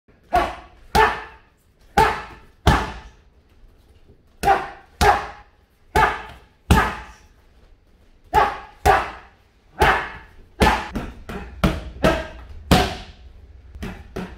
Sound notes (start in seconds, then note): 0.2 man grunting